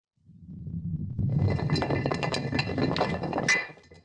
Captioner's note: rock rolling